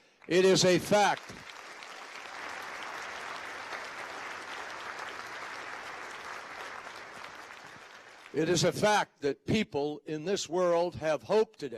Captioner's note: applause